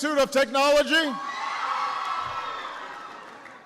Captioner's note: applause